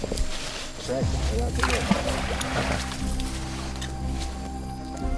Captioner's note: water splashing